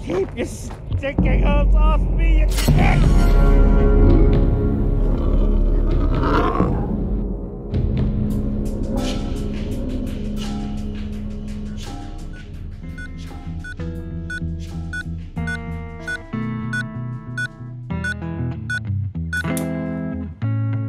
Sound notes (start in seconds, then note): 2.9 groaning; 4.9 creature groaning; 7.6 dramatic music; 12.6 bright music; 12.6 machine beeping